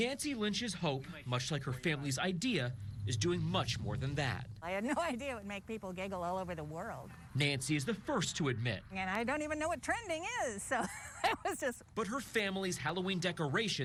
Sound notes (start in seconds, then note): 10.7 laughs